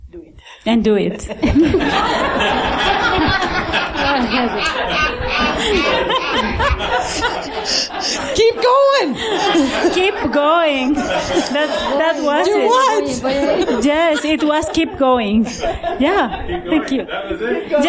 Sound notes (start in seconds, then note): 2.3 laughter